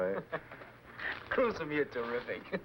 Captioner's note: laughing